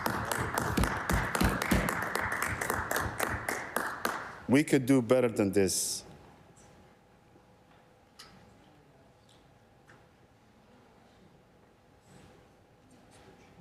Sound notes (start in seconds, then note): 1.6 applause